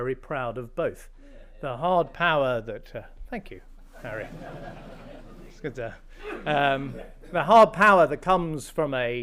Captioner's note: laughter